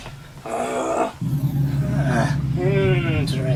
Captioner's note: monster grunts